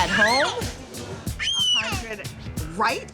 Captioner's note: baby Screams